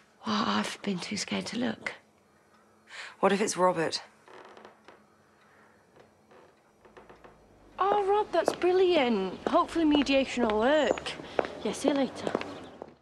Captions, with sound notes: Well, I've been too scared to look. What if it's Robert? *Creaking noises* *Creaking noises* Oh Rob! That's brilliant. Hopefully, mediation'll work! Yeah. See ya later.